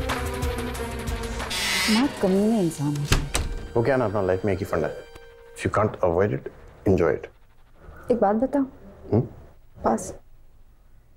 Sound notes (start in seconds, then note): 2.9 door opens and closes